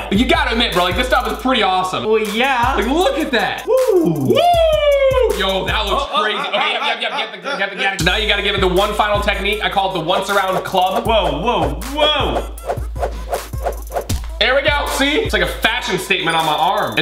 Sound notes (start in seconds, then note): 12.0 rope sound